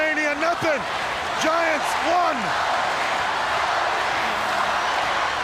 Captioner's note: crowd chanting